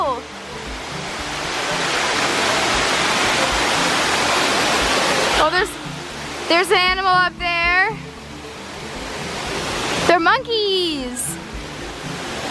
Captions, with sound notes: (loud rushing water) Oh, there's an animal up there. They're monkeys.